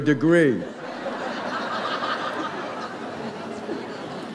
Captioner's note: audience laughs